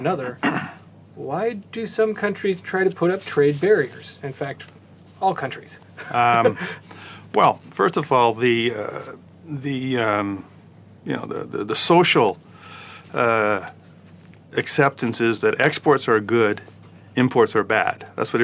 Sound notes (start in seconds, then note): 6.0 laugh